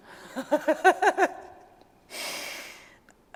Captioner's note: laugh